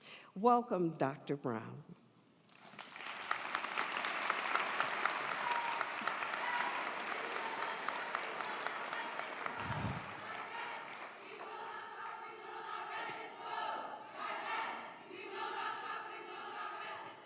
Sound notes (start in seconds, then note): 3.1 audience applauds; 12.2 students chanting